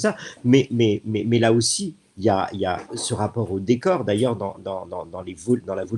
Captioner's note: laughs